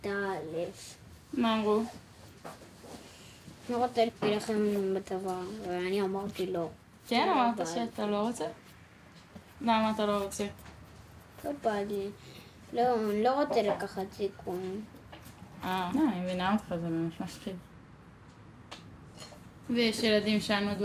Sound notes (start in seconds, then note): 0.1 speaking foreign language; 11.6 speaking foreign language